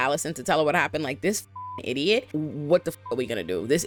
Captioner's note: beep